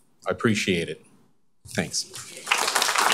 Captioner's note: applause